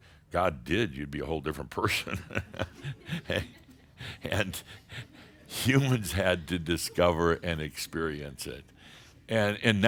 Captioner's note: Adamus chuckles